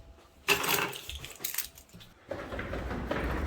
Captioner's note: keys jingling; footsteps clomping